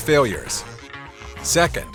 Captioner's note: Vietnamese